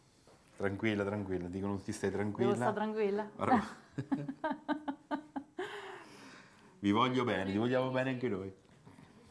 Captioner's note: laughter